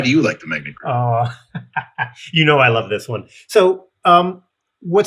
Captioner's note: laughs